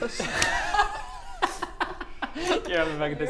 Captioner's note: tempted DM laugh